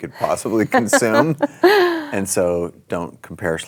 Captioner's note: laughter